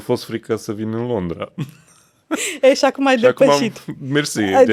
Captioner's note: laughter